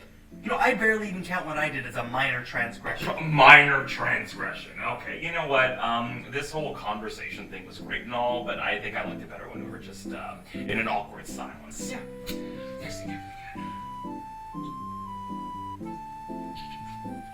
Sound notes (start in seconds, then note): 3.3 sputters; 12.7 ambient music